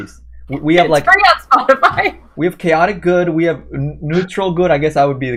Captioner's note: laughs